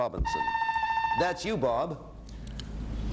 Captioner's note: buzzer sounds